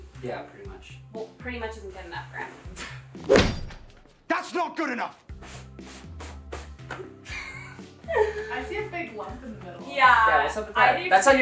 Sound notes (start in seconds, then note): 3.2 sword thuds; 5.5 duvet cover rustling